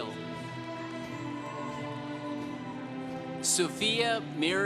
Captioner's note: congregation cheering